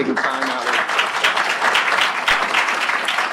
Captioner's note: applause